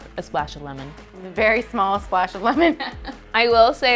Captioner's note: chuckling